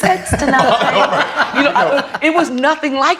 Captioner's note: all laughing